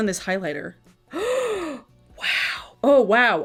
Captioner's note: gasps